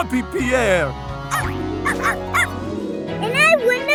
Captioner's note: barking